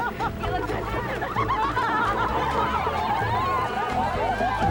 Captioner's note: everyone laughing